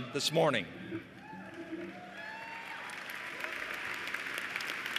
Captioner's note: cheers and applause